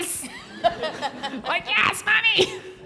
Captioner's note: everyone laughs